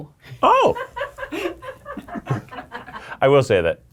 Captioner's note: people laughing